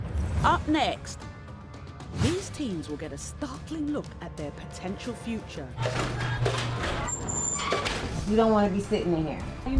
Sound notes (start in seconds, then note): 5.8 door close